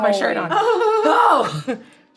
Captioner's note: laughing